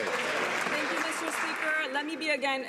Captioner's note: some Applause